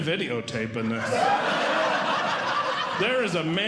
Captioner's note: audience Laughing